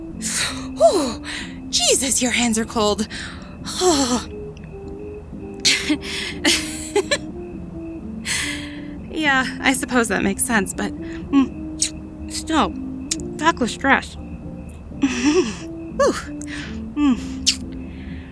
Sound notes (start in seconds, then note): 0.1 gasp; 6.3 laughs hard; 10.2 kiss; 13.2 shivering